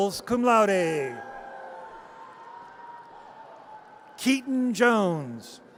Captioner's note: audience cheers